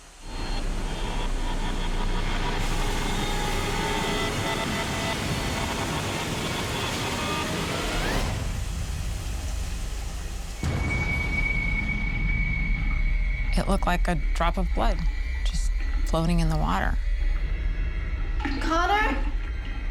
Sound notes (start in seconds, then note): 0.2 suspenseful music; 8.2 water running